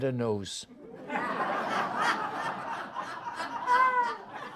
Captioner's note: audience laughs